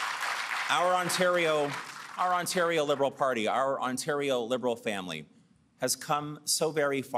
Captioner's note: applause